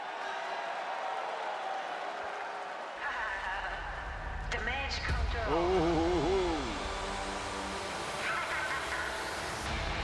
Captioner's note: applause